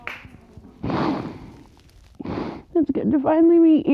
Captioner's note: both sobbing